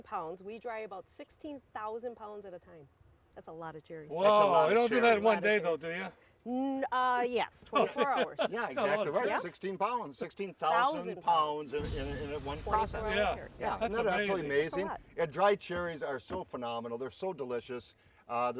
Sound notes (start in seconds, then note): 7.6 laughing